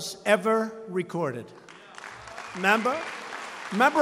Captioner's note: applause